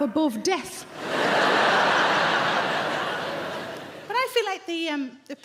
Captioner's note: audience laughing